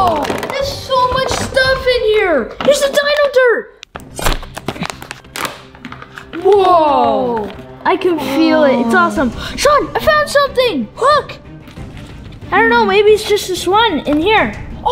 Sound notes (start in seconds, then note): 3.9 crunching